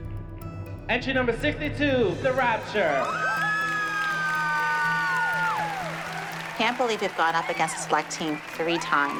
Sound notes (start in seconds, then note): 2.6 cheering; 3.1 dramatic music playing